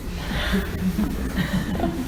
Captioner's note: audience laughs